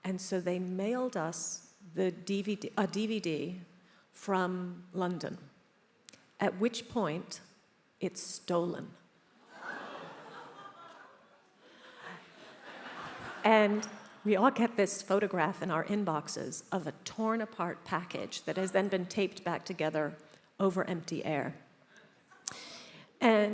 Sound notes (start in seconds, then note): 9.4 attendees laughs